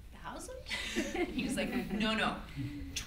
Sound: audience laughs

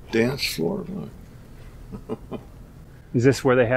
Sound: he chuckles

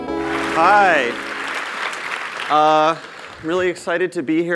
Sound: applause

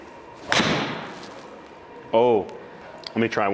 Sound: ball thuds

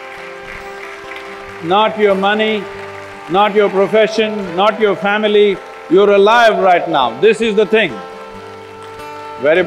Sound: applause; applause

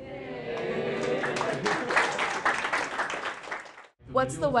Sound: applause

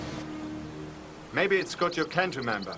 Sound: birds chirping

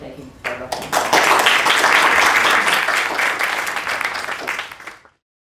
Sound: class applauding

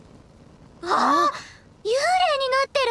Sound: gasp

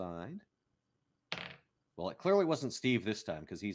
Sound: dice tapping

